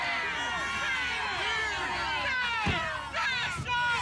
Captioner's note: cheering